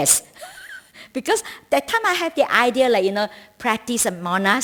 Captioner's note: laughter